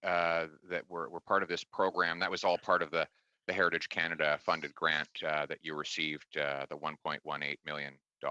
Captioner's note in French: voix de l'interprète